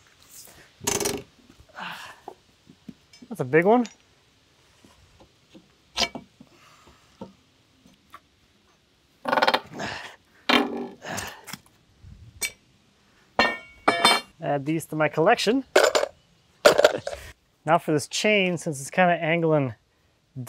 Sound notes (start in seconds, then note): 0.4 nail bends; 9.5 nail bends; 9.7 grunts; 15.8 nails clink